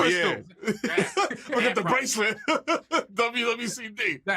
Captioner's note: laughing; laughs